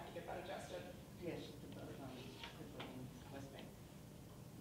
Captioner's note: woman muttering